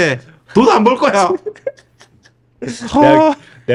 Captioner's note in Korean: 웃음